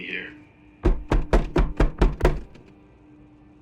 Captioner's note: door knocks